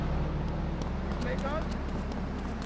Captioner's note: car engine roaring